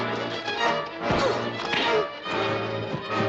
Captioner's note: grunting